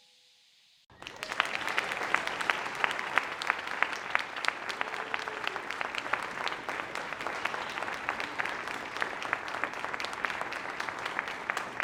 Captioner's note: applause